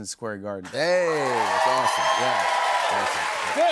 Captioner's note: cheers and applause